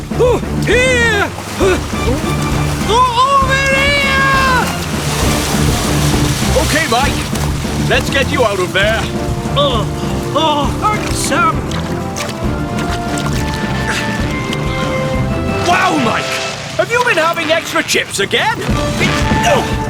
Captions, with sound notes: OH, UH! HERE...HUH! OVER HERE! [ Struggling ] OKAY, MIKE. LET'S GET YOU OUT OF THERE. [ Spluttering ] UGH, ARRRH. THANKS, SAM. [ Sam Strains ] WOW, MIKE! HAVE YOU BEEN EATING EXTRA FRIES AGAIN?